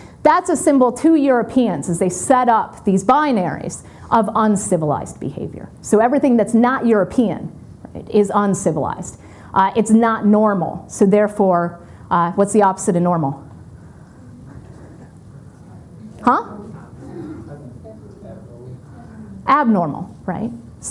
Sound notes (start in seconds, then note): 14.0 audience murmuring